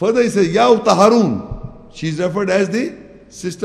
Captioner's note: Arabic